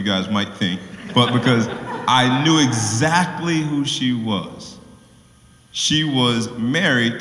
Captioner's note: laugh